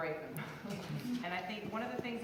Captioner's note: laughs